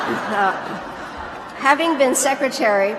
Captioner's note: laughter